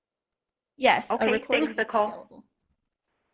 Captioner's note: murmurs